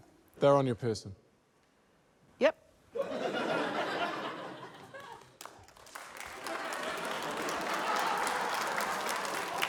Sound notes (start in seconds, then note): 2.9 laughter; 5.6 applause, laughter